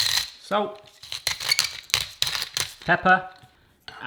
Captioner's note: grinding noise